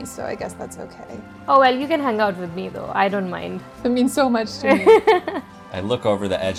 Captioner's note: laughter